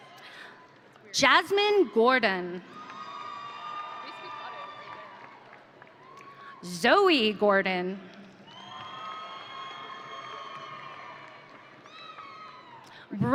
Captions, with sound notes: Jasmine Gordon. (audience cheering) Zoe Gordon. (audience cheering)